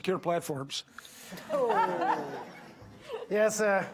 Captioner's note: audience laughing